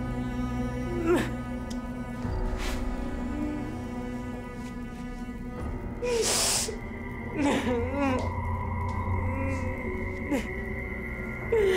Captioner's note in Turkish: Ağlıyor